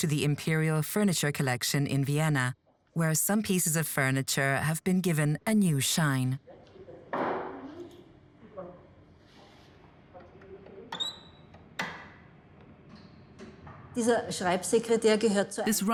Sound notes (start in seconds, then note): 6.7 workers speaking in foreign language; 13.9 speaks in foreign language